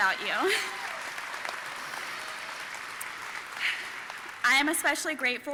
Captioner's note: audience cheering and applauding